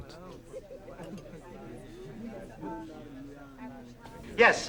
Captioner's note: people chattering